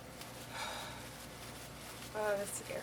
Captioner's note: takes a deep breath